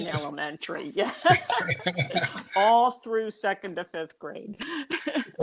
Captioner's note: laughter